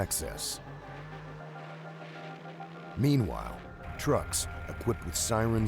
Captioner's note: voiceover